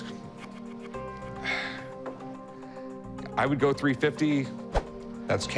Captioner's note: sighs